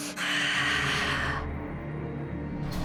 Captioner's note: Elda gasps